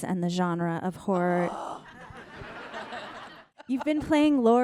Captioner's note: Jamie groans